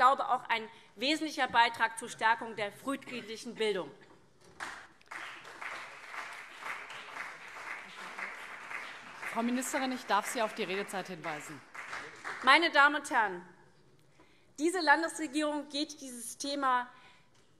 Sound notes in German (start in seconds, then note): 4.4 Beifall CDU und SPD